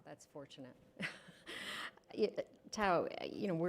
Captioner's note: chuckles